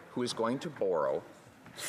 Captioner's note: none